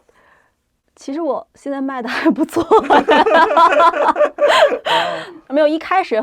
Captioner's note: laugh